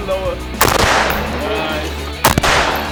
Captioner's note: gun bangs